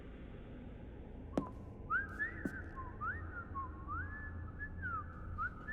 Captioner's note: leprechaun whistling